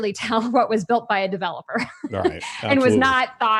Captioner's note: laughs